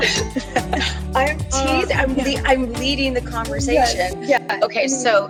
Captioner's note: laughs